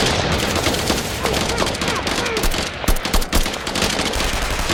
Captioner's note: guns blasting; troopers grunting